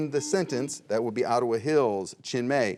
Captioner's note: buzzer rings